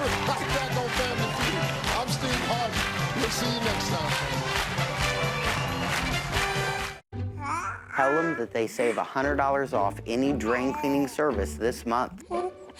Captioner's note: cheering and applause